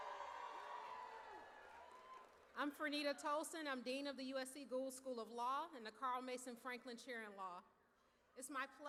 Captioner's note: cheers